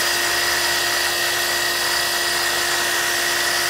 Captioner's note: saw whirring